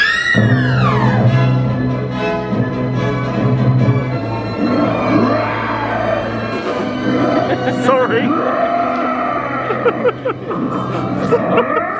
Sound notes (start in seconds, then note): 0.0 dancers squeal; 0.8 bright music; 4.5 beast roars; 6.4 snickers; 8.0 beast continues roaring; 9.6 chuckles